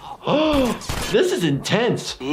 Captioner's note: gasps